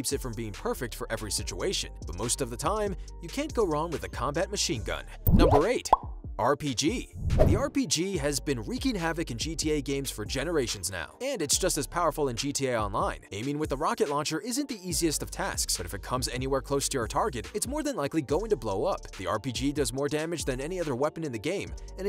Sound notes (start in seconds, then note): 5.2 bubble popping; 7.2 whooshing